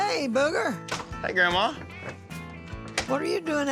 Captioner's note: door closes